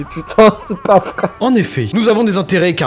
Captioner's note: cries.mp3